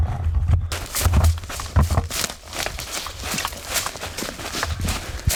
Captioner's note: footsteps crunching